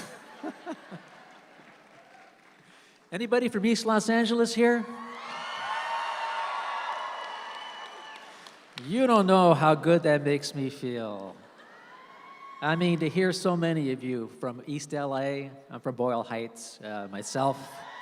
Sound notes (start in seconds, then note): 0.0 and audience laughs; 4.8 audience cheers